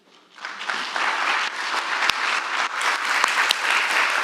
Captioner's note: audience applauding